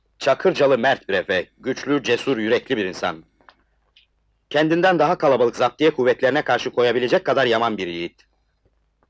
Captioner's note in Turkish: none